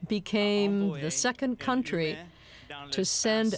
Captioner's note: speaking French